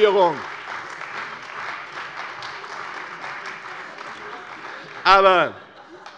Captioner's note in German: Beifall bei der CDU